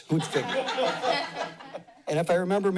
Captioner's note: laughter